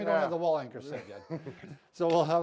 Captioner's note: chuckling